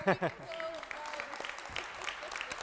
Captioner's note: applauding